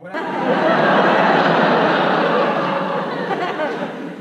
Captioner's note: audience laughs